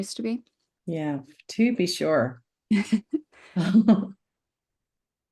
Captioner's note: laughs